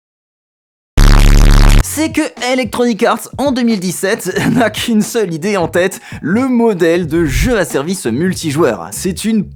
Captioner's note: flames